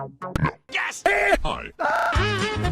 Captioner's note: low-pitched; deep male voice; Professor Utonium's scream glitches